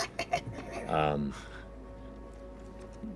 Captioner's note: cackles